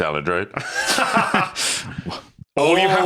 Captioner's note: Tom laughs